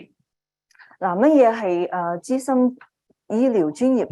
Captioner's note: speaking chinese